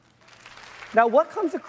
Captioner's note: applause